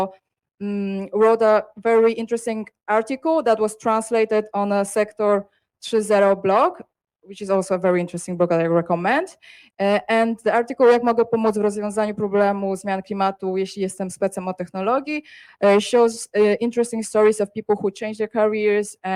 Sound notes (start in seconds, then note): 11.6 speaks Polish